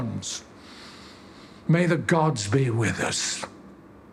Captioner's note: he inhales